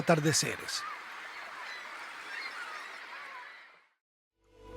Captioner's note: beach, ocean sounds